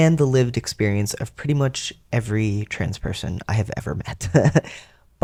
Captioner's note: laugh